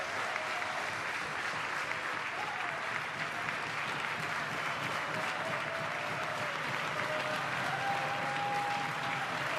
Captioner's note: applause